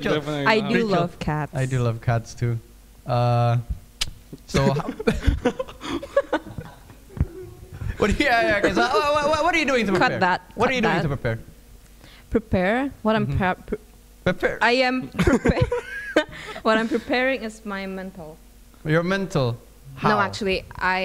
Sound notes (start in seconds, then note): 9.5 laughing; 15.2 laughs